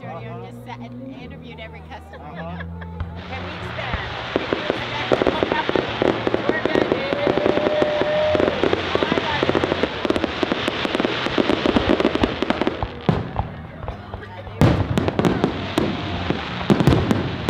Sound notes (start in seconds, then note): 3.0 fireworks; 4.1 cheering